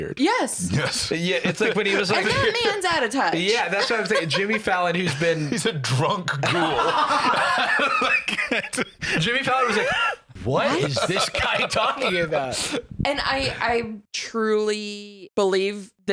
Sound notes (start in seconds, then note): 7.1 all laughing